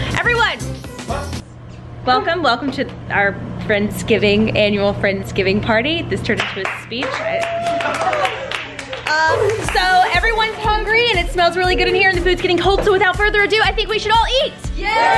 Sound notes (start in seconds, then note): 6.4 claps and cheers